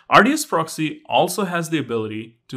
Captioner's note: none